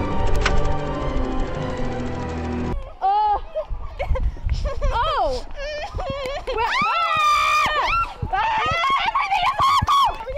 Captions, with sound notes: UH! *Panicked Noises* *Screaming* EVERYTHING IS AWFUL!